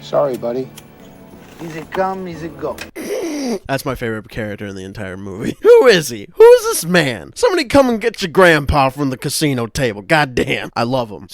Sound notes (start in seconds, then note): 3.0 bursts out laughing